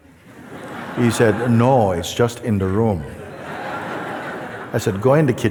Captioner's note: laughter